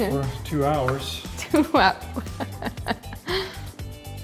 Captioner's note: laughs